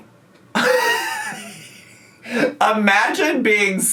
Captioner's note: laughs